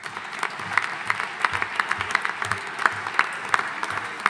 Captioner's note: audience applauding